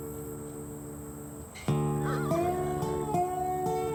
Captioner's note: horses neigh